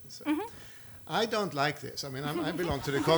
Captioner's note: laughing